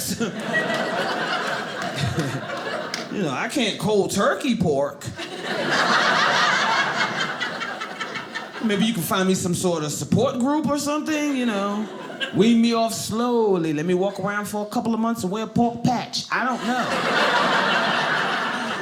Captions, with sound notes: (audience laughing) You know I can't cold turkey pork. (audience laughing) Maybe you can find me some sort of support group or something, you know. Wean me off slowly. Let me walk around for a couple of months and wear a pork patch. I don't know. (audience laughing)